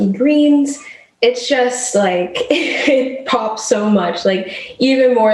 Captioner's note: laughs